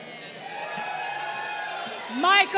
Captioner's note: crowd cheering